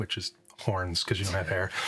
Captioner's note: laughing